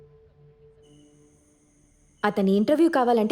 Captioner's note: night ambience